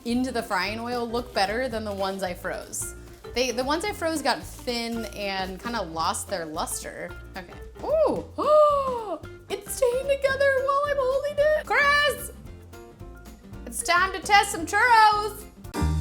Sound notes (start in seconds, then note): 8.4 gasps; 15.7 upbeat music